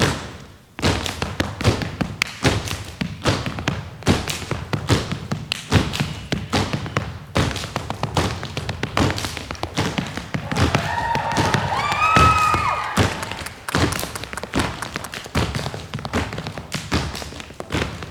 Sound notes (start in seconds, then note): 10.2 audience applauding and cheering; 13.0 tapping